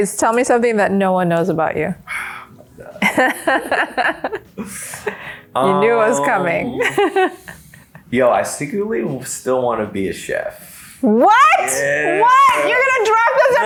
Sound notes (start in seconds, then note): 3.0 laughs together; 5.6 laughs